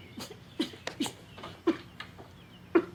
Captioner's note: Victor sobbing